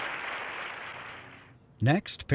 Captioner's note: audience clapping